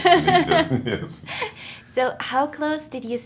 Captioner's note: laughing